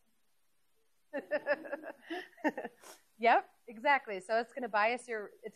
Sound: laughs

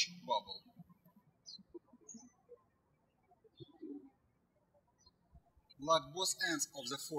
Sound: birds chirping

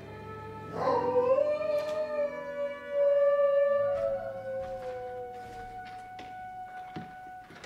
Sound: wolf howls

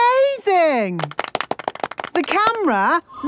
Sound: applause

